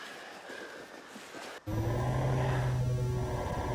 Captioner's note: computerized humming